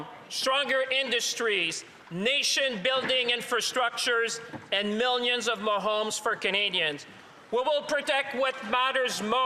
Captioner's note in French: voix de l'interprète